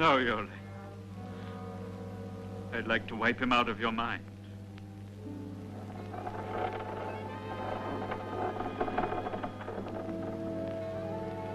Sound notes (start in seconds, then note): 0.1 suspenseful orchestral music; 5.7 boards creaking